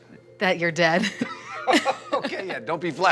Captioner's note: both laughing